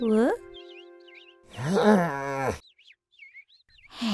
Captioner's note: exclaims; Abraham sighs deeply; sighs